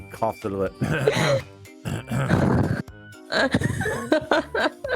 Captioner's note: stingy throat-clearing noises